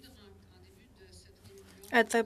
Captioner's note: speaking French